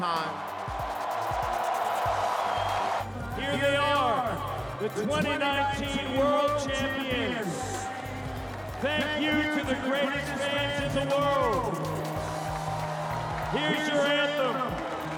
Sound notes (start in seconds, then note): 3.1 cheering and Applause